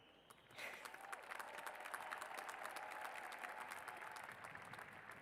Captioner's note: cheers and applause